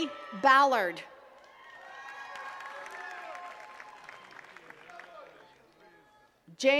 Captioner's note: attendees cheering and clapping